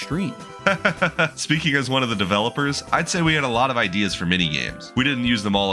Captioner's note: laughs